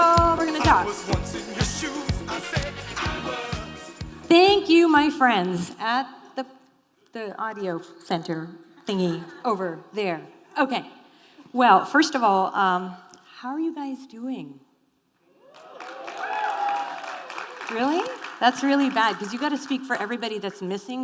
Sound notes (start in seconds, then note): 15.5 applause